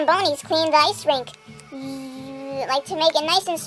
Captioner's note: motor hum imitation